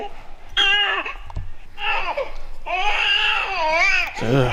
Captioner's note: baby crying